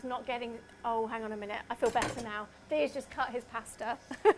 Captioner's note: laughs